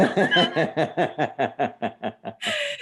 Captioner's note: laughs loudly